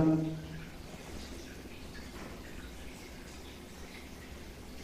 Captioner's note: water dripping